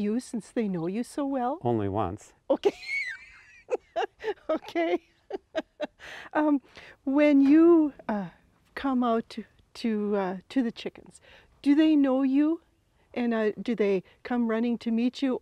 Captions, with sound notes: since they know you so well? - Only once. - Okay, (laughs) okay. When you come out to the chickens, do they know you, and do they come running to meet you,